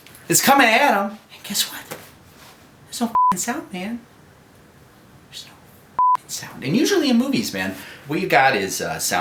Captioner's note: whispering